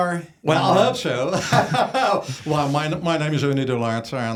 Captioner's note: laughs